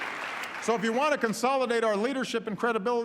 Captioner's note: applause